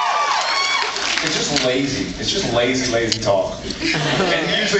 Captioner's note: cheers; drawls